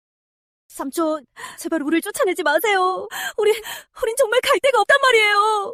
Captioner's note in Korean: 헉 소리